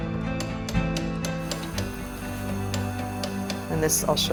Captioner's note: hammering